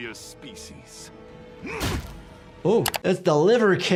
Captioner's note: grunting